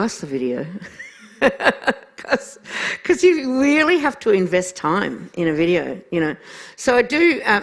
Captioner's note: laughs